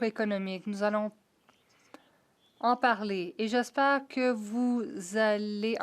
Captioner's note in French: voix de l'interprète